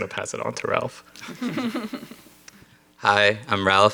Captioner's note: panel laughs